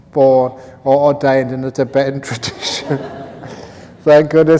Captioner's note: laughter